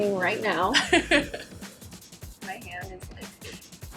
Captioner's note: laughs